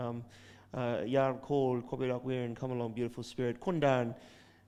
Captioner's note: speaking in foreign language